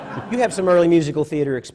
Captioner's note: laughter